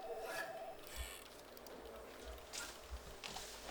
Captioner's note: phones ringing